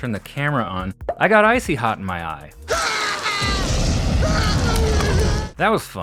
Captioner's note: screaming